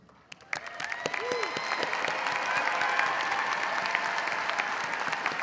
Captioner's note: audience cheering and applauding